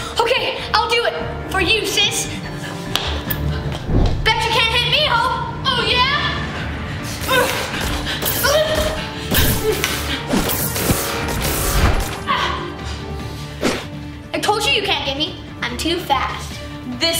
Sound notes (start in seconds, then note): 7.4 grunting; 10.3 lasers beaming